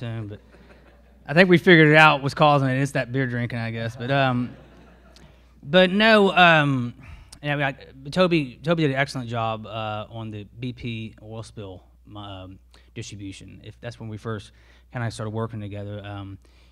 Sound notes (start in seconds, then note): 4.0 all laugh